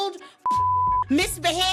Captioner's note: beep